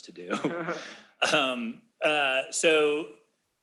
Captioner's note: laughter